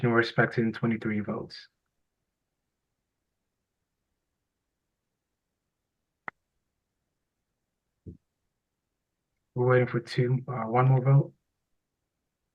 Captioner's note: pause